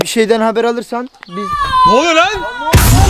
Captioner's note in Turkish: bağırma sesi